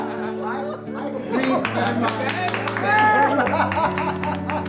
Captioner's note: applause